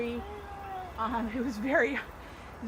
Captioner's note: baby gurgles